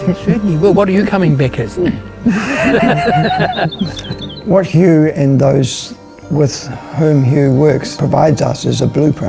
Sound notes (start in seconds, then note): 2.2 laughter